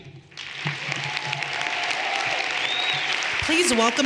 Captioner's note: everyone applauding